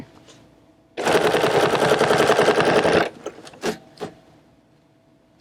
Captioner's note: machine whirring